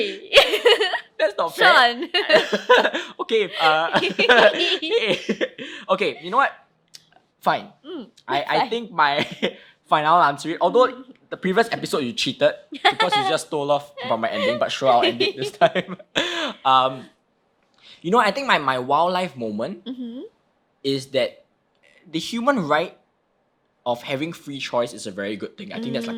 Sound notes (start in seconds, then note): 1.5 laughing; 12.7 laughing